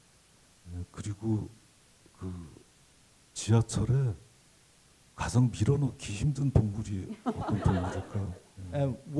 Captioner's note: speaking Korean